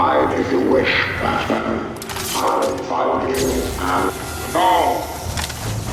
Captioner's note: tense music; character speaking robotically